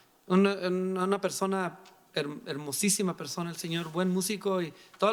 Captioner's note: speaking in foreign language